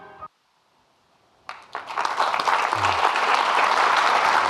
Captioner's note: audience clapping